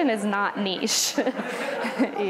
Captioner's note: laughter